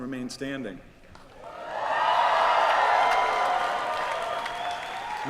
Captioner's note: cheering